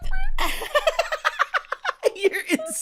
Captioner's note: cackles